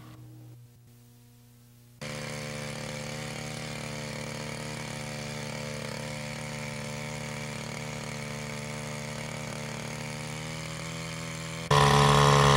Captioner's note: pressure washer, engine running